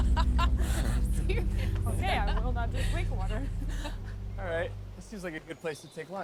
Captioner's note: laughs